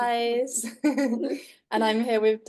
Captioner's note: chuckles